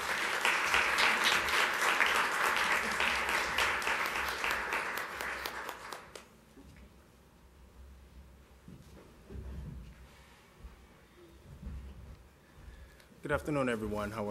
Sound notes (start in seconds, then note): 3.4 applause